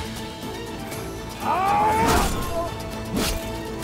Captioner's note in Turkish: Bağırma sesi